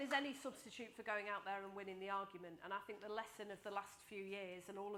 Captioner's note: applause